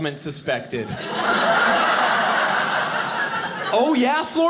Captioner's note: audience laughing